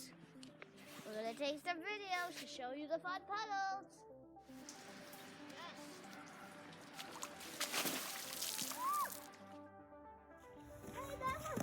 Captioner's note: splash; woo